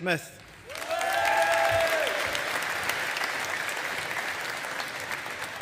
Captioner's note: audience applauding